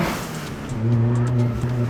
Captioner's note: engine revving